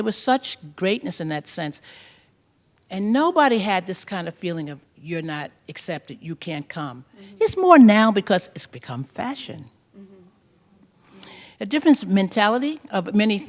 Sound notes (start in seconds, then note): none